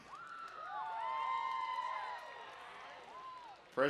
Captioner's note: cheering